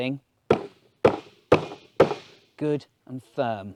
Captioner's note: hammering